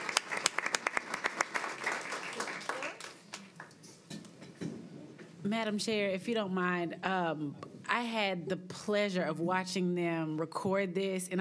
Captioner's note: applause